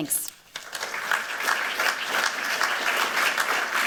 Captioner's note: applause